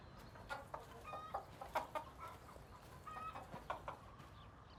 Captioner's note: chickens clucking